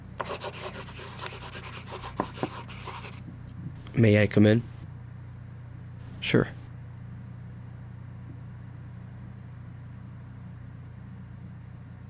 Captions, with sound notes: (Charles knocks on door) - May I come in? - Sure.